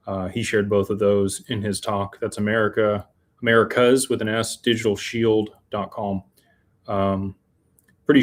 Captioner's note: none